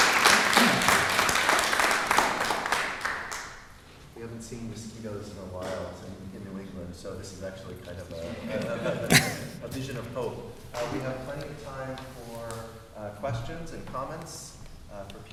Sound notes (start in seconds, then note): 8.2 laughter